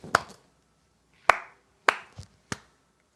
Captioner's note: clapping